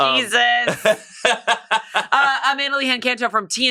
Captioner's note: laughs